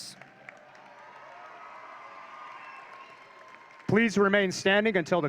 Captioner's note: audience cheering